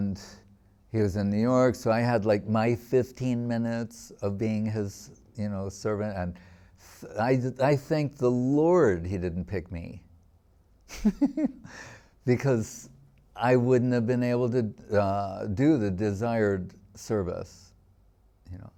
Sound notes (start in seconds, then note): 10.9 laughing